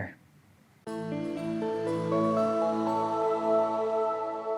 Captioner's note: ascending tones